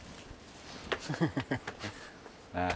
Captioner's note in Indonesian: tertawa